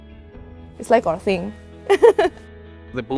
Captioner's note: laughs